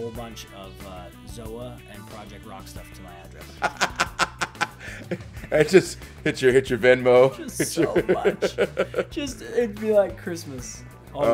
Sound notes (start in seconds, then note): 7.4 laugh